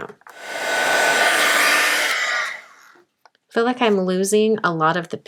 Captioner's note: heat tool whirs